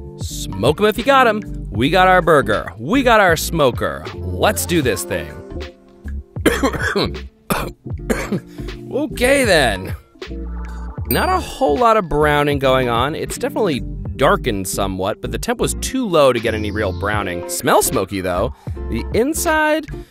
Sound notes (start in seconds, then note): 6.4 coughs